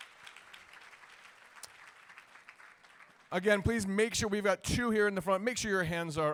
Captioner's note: applause